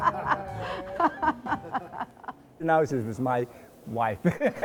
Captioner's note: laughing